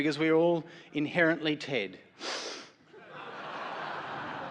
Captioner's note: sniffles; laughter